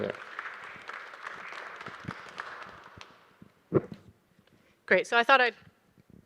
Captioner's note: audience applauding